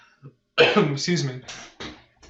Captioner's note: laughs; coughs